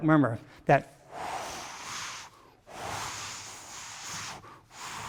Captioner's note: vocalizing whooshing